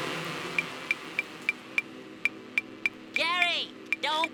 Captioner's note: loud buzzing; ticking